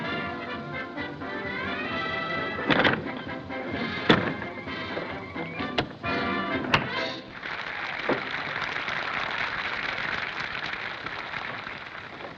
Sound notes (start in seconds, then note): 7.3 applause